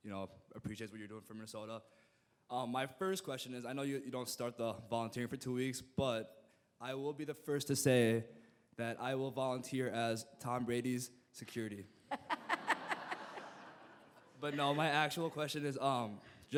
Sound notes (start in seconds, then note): 12.1 all laughing